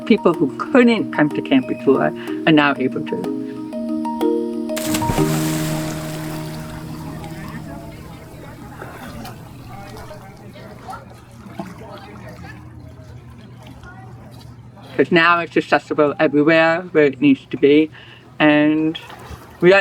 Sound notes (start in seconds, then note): 4.8 splash; 7.2 happy chatter